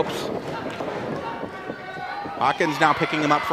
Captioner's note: audience yells